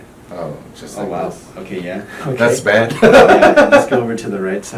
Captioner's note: laughing